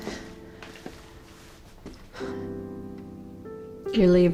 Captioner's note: sighs